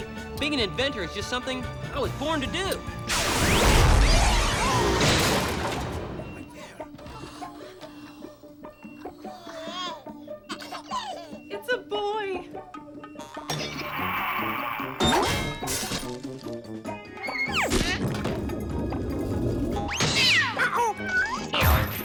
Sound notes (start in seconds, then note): 9.3 baby babbles